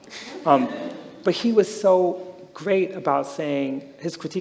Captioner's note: some laughter